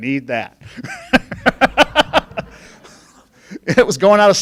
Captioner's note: laughing